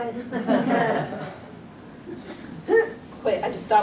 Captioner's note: audience chuckles